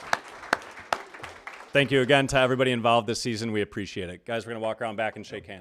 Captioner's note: applause